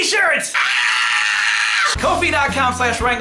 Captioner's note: screaming